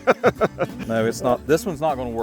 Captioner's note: laughing